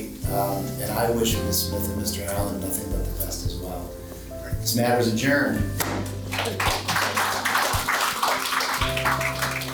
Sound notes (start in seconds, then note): 6.2 audience applauds